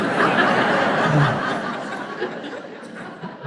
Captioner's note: crowd laughs